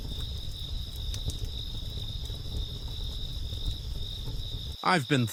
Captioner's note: campfire crackling